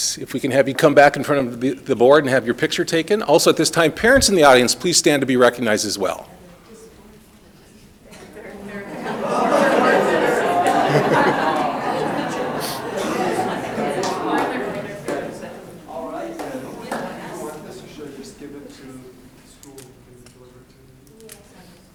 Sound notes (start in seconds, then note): 8.5 people laughing